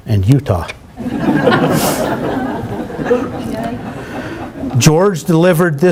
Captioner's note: laughter